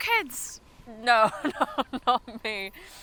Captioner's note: chuckles